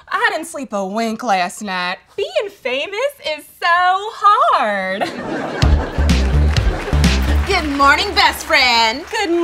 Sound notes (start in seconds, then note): 4.9 audience laughs